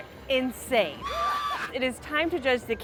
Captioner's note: screams